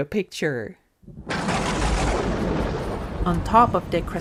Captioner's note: thunder clap